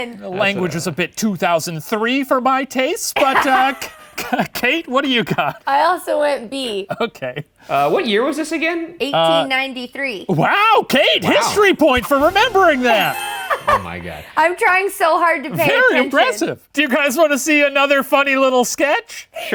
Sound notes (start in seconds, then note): 3.2 laughing